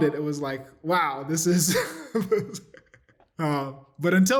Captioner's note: laughter